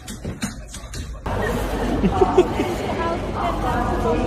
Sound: chuckling

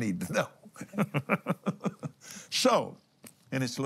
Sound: laughs

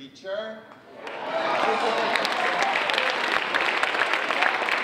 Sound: audience applauding

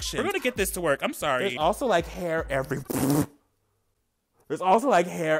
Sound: man sputters

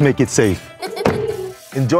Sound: eerie laughter

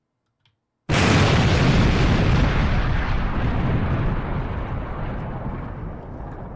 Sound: loud explosion sound

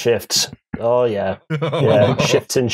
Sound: laughs

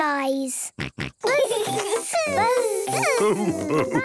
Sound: both buzzing

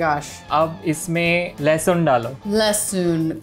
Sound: speaking in Hindi

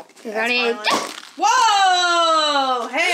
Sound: pops

